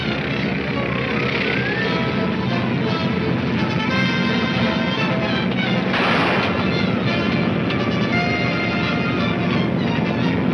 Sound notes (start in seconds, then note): 4.1 gunshot banging